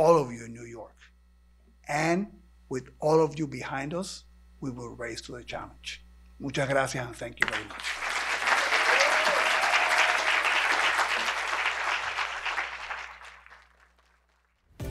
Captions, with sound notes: to our entire community, and to all of you in New York. And with all of you behind us, we will rise to the challenge. Muchas gracias. Thank you very much. [ Cheers and applause ]